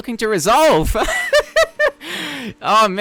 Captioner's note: laughs